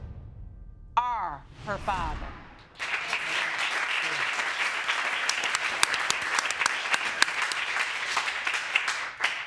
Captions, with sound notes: Are her father. (APPLAUSE)